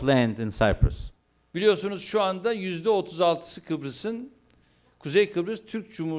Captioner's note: non-english speech